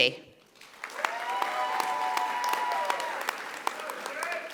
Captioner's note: audience applauding